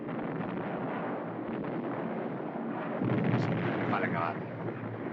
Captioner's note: ship's Guns Firing